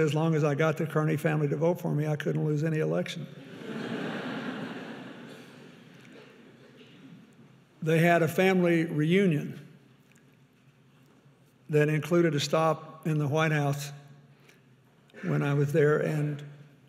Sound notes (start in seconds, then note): 3.4 audience laughing